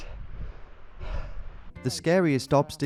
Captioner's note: exhales